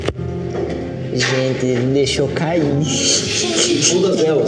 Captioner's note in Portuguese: risos